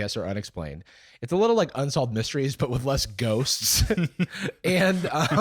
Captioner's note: laughs